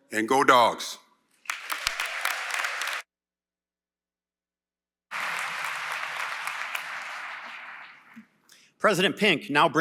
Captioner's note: applause